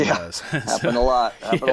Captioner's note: laughing